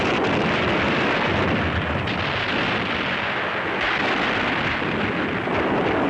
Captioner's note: artillery booming continues